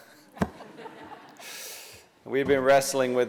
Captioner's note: laughter